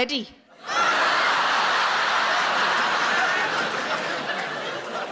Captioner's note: audience laughs